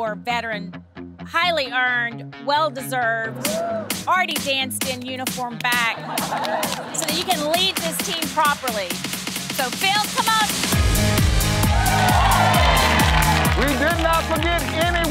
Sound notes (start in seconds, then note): 5.9 laughing; 11.6 cheering